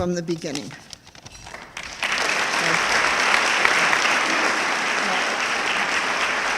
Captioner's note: audience clapping